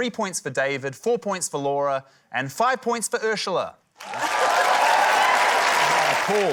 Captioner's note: cheering, applause